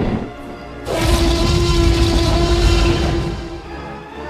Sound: T-Rex Roaring Sounds

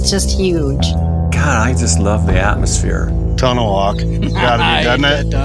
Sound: laughs

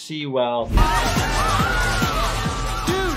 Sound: crowd cheering

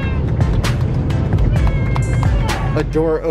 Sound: clapping

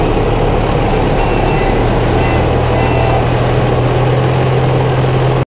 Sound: train horn tooting

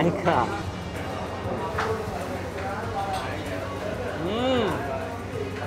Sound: distant chattering

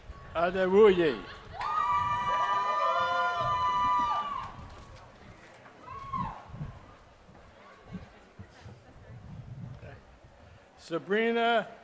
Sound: applause

